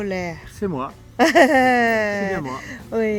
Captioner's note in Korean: 웃음